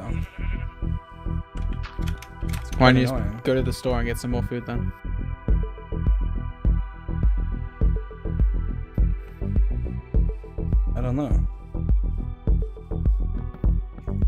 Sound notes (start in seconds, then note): none